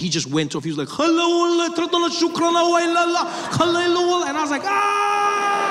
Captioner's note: speaking Arabic